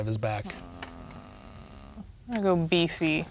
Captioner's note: groans